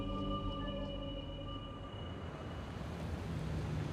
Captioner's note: car approaching